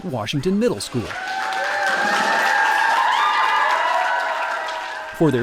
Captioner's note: loud cheering and applause